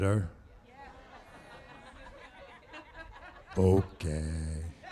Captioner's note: laughter